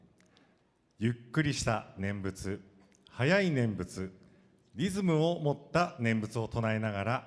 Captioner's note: speaking foreign language